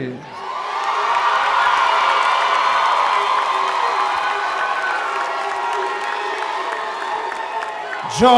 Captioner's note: cheering